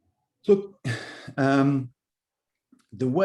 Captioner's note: sighing